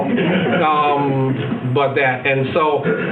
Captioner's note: attendees laughing